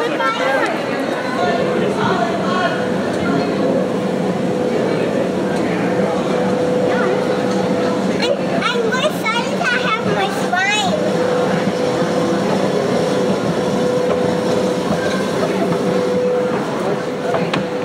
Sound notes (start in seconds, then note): 3.9 escalator hums; 11.5 escalator hums and clacks